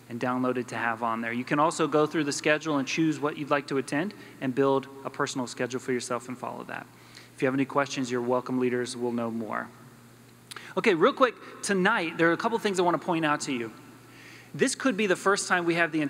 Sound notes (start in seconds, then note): none